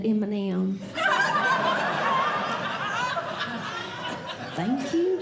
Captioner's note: audience Laughing